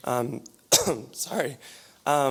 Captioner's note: coughs